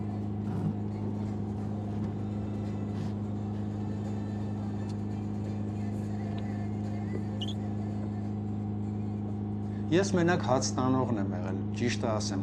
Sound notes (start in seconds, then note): 2.1 background music; 2.1 car engine